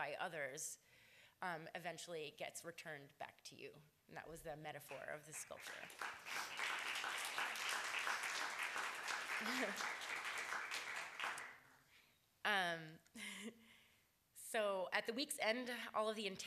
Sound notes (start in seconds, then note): 5.3 applause